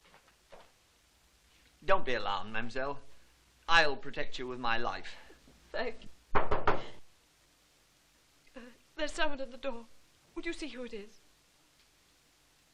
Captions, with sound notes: Don't be alarmed, mademoiselle. I'll protect you with my life. - Thank you. - (KNOCK|NG) There's someone at the door. Would you see who it is?